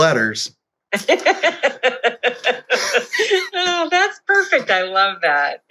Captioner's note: laugh